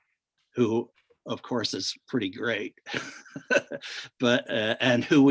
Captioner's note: laughs